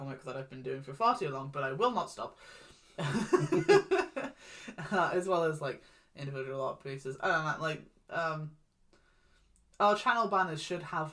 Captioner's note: laughs